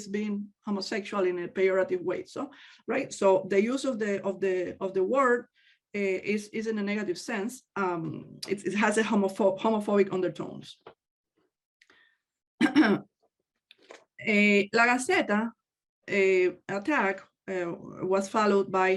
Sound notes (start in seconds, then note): 12.6 clears throat